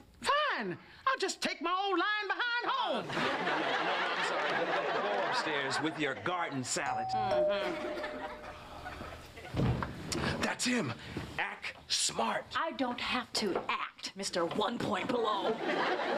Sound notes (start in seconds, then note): 6.8 doorbell rings